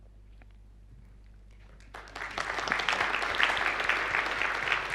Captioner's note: applause